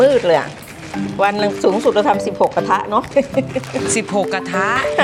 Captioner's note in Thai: เสียงหัวเราะ